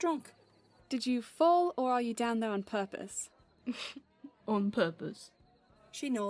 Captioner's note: he snorts